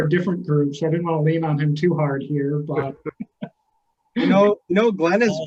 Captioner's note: laughing